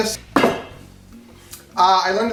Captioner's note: pot clanks